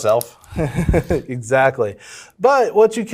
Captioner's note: laughs